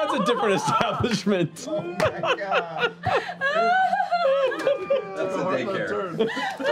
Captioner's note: laughter